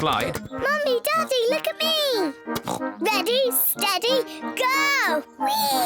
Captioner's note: oinks